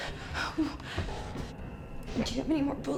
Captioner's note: Claire groans